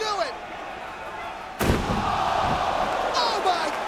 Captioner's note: chairs clamming